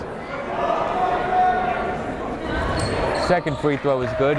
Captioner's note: yelling